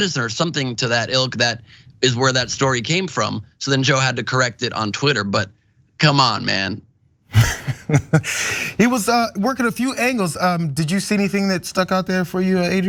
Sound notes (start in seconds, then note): 7.3 laugh